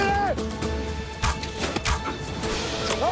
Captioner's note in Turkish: Ok sesleri